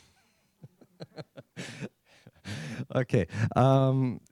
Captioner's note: laughs